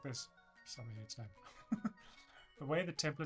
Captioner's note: laughs